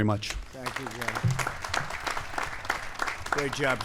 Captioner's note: applause